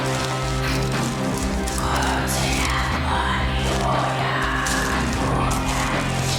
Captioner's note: raspy whispering in foreign language